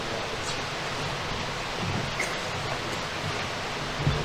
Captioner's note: people chattering